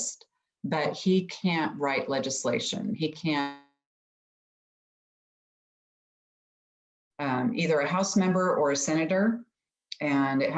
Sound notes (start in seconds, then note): 4.5 audio cuts out